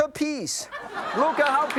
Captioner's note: audience laughs